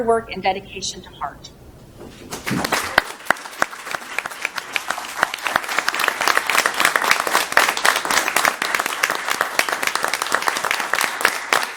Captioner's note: applause